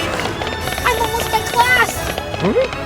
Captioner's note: school bell ringing